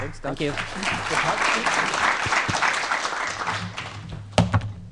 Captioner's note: applause